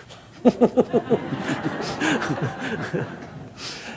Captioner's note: laughter